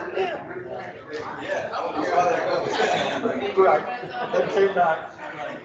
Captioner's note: attendees chatting